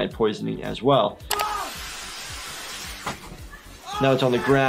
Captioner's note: screaming